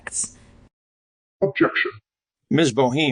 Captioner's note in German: verzerrt